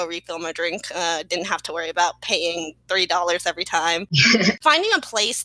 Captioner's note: laugh